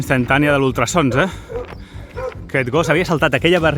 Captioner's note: the dog barks